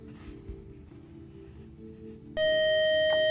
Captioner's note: loud buzzer